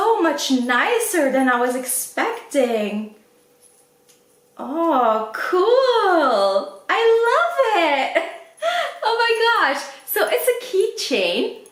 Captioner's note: laughs